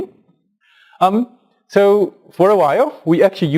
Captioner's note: pause